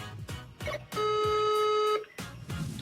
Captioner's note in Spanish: Tono de llamada